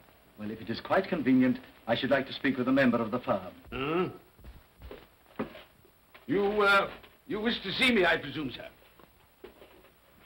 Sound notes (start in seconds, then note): 3.8 Scrooge grunts